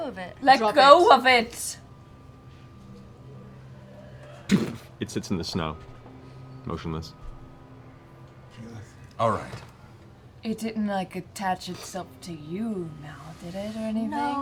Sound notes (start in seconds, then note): 4.5 impact